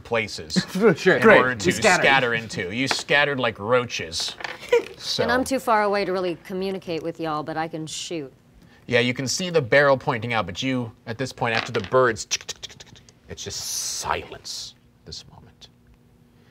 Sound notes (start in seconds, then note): 4.6 laughing; 12.2 mimicking birds flying